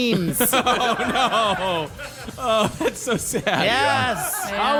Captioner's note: audience laughing